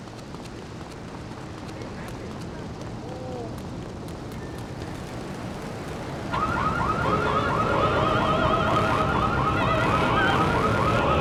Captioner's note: sirens wailing